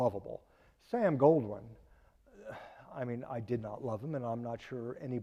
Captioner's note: sighing